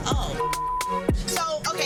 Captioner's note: beep